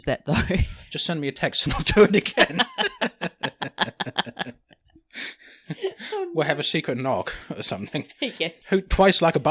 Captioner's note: laughs